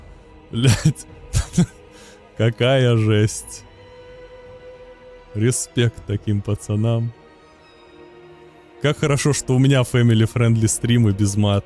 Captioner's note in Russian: смех